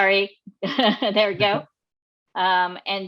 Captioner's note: laughs